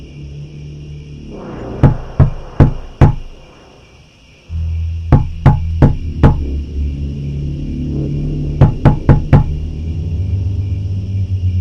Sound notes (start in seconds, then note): 2.2 knock on window, eerie music, crickets